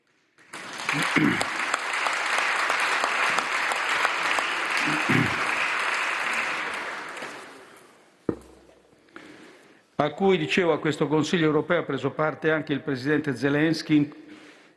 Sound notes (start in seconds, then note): 0.6 short shower of applause; 4.8 Mario Draghi, moved, clears his throat several times